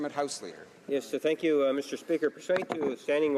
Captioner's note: speaking French